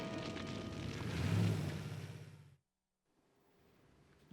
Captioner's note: engine humming